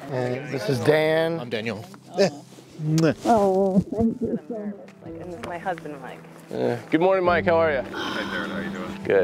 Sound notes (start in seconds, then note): 2.9 kissing lips smacking